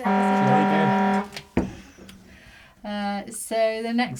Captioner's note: siren beeping